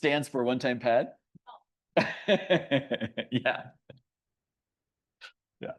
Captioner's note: laughs